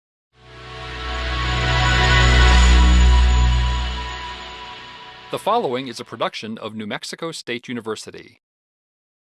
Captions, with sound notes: (synthesizer) - [Voiceover] The following is a production of New Mexico State University.